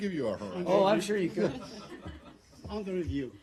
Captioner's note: laughter